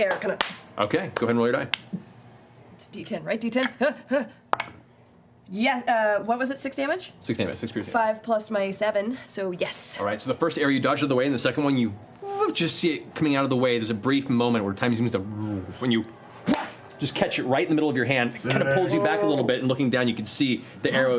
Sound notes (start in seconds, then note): 15.8 whirring